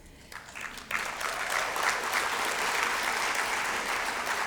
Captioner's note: applause